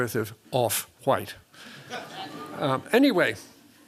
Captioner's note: laughter